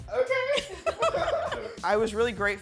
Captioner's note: all laughing